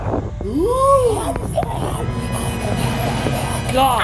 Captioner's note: Pipe the Clone's gibberish